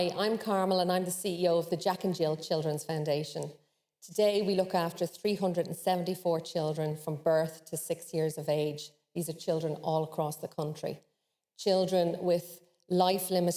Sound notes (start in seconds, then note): none